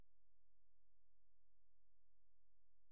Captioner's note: none